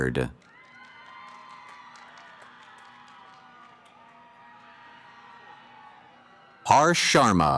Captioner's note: cheering